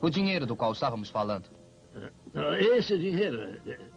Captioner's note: chuckles